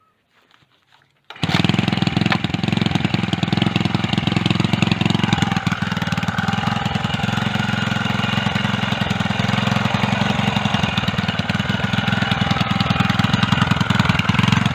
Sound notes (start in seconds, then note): 6.0 engine purring